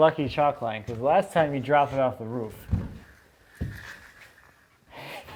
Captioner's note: laughs